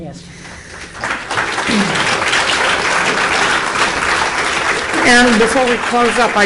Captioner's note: applause from audience